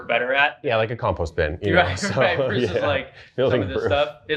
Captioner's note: laughs